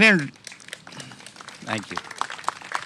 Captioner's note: applause